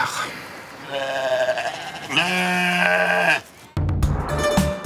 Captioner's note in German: Blöken